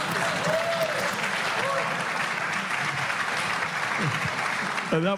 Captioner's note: laughter